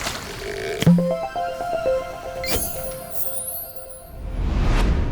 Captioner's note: playful chime